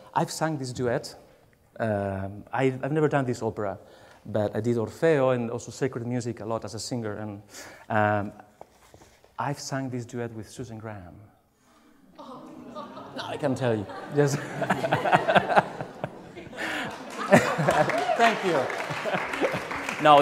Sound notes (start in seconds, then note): 10.8 laughs; 15.2 laughs; 16.4 applause